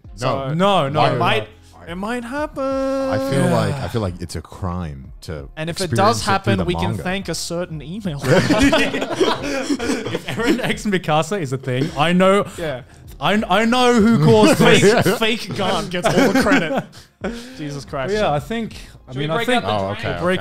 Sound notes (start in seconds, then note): 8.2 laughing; 13.9 laughing